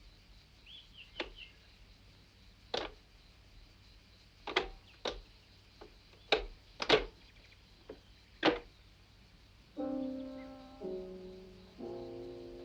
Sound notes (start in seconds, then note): 6.8 glove compartment clicking; 9.8 ominous music